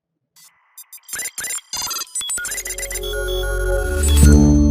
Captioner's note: robot chirping